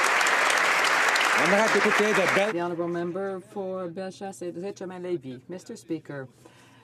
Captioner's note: some Applause